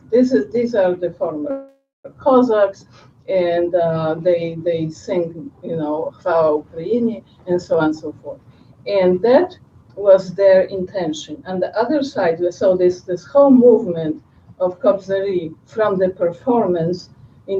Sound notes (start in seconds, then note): 6.7 non-english speech